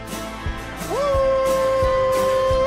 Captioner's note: howling